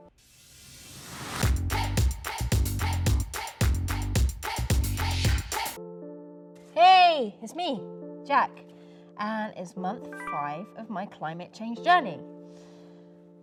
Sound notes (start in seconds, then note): 10.1 notification sound